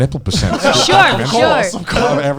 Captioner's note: laughs